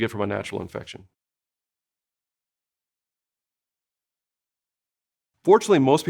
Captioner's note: silence